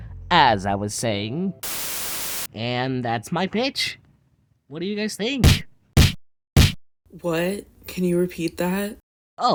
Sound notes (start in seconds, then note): 1.6 Static